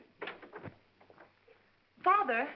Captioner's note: door opens